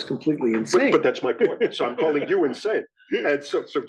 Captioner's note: laugh